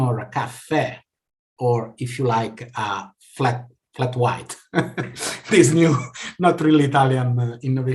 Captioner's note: laughs